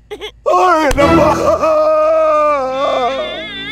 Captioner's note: Crying